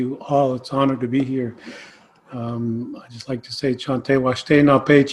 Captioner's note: speaks Native American language – not transcribed